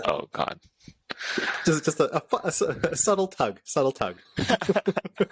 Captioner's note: laughter